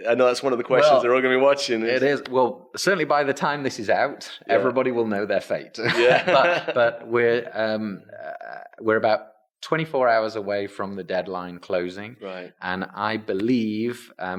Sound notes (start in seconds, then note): 5.8 laughs